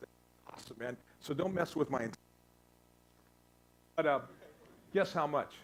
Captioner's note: static